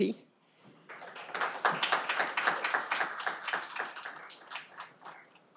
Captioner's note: audience applauding